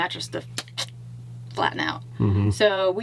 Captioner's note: sputters